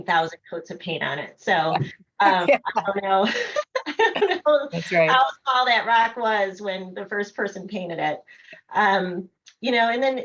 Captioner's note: laughter